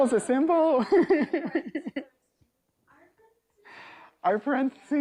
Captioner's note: laughs